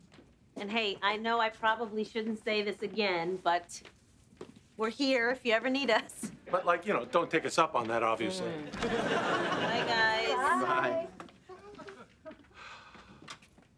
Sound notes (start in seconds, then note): 8.6 door opens; 12.4 sighs